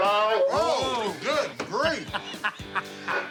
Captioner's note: laughs